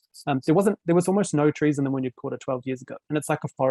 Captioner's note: speaking foreign language